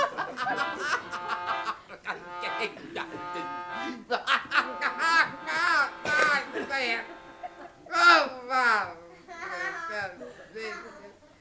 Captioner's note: laughter intensifies